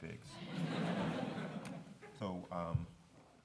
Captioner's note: laughter